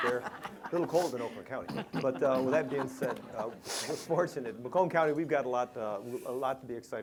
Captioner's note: laughs